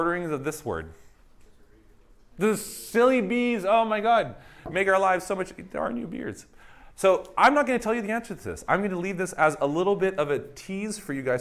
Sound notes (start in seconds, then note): none